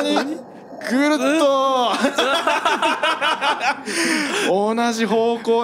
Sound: laughs

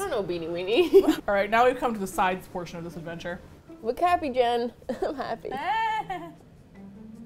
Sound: forces laugh

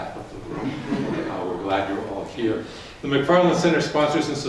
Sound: audience laughs

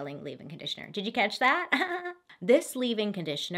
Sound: giggles

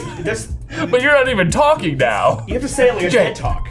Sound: laughs

